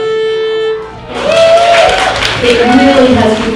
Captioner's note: applauding and cheering